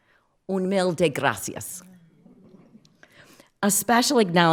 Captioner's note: speaks foreign language